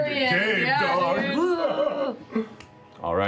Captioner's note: growls